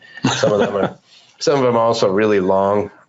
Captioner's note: both laugh